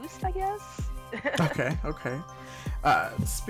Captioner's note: laughs